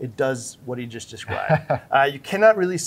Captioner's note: laughing